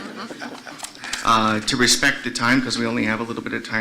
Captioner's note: laughter